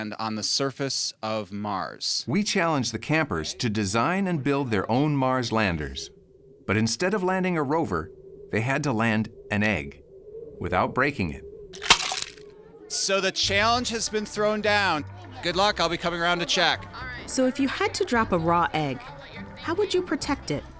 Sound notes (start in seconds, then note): 11.7 egg splatters